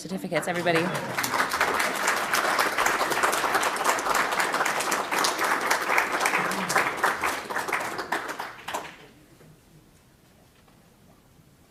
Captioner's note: applause